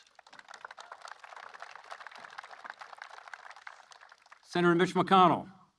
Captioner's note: applause